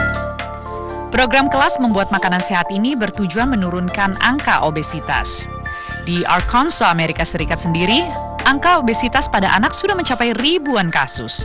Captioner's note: non-english speech